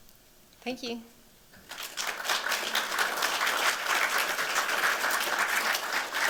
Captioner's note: applause